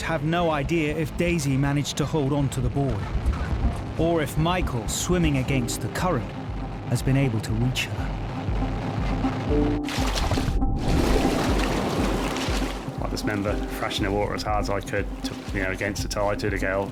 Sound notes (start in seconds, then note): 8.9 dramatic music; 9.6 water splashing